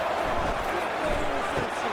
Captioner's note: crowd Noises